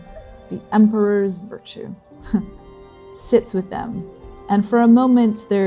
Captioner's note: scoffing